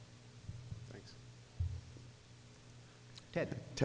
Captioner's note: voiceover